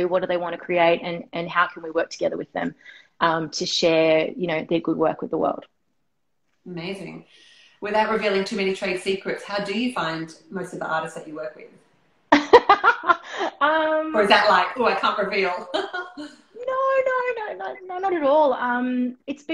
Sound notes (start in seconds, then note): 12.3 laughter; 15.5 laughing